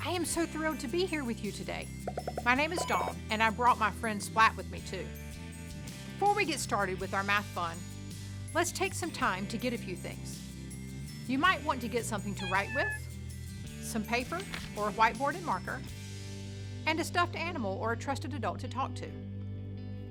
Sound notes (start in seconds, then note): 12.4 meow